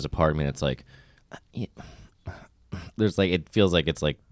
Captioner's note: faintly groans